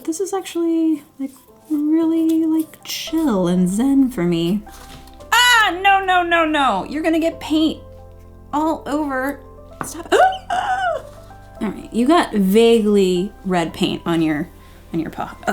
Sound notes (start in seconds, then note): 5.4 shouting; 10.2 gasping